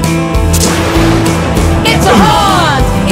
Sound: thunder sounds

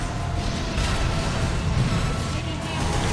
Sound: robot whooshing and banging

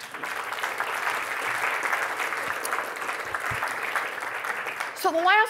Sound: applause

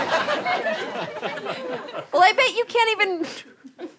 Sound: laughter

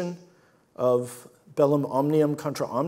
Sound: speaks in foreign language

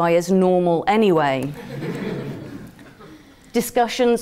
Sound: laugh

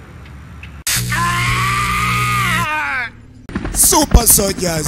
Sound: Alex Mason Screams

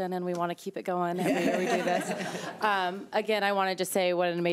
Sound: board members laughing

